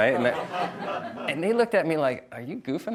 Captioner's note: audience laughs